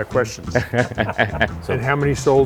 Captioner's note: laughing